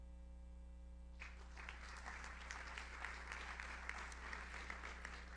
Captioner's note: audience applauds